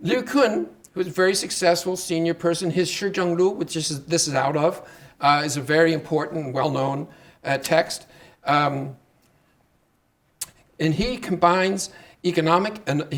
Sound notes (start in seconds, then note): 2.9 speaking Chinese